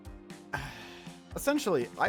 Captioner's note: sigh